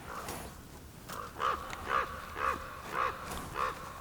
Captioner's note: bird squawking